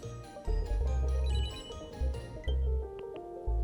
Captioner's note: phone ringing